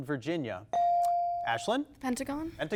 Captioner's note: bell dings